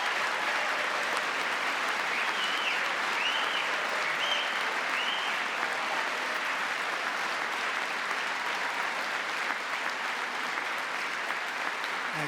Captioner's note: applause